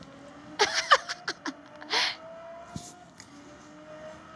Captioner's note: laughs